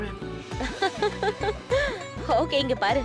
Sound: giggling

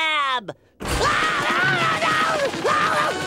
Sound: screaming

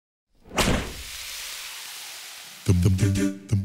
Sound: air whooshing; upbeat vocal music

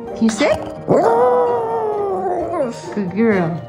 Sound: howling

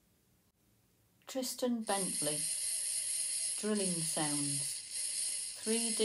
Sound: drilling sounds

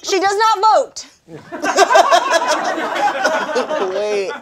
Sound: all laughing

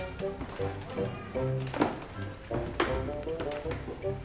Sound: wood steps creaking

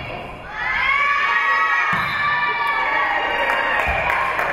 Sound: whistle being blown; spectators cheering; spectators cheering and applauding

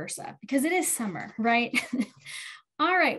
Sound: chuckles

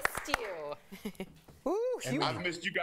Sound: applause

